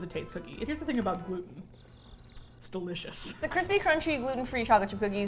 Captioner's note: crickets